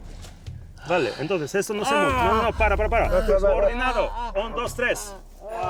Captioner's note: speaks foreign language